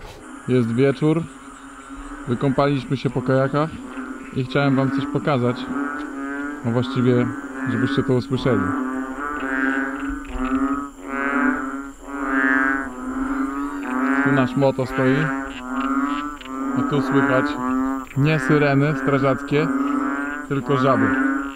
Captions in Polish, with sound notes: Jest wieczór, wykąpaliśmy się po kajakach i chciałem wam coś pokazać, a właściwie żebyście to usłyszeli [rechotanie żab] Tu nasz moto stoi I tu słychać nie syreny strażackie, tylko żaby